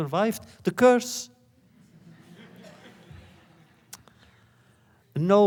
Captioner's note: laughter